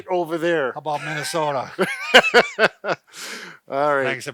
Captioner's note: both laugh